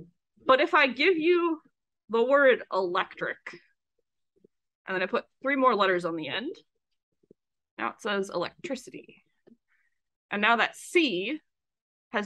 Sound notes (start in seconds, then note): none